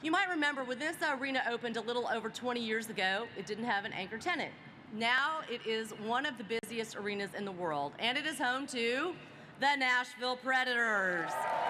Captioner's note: applause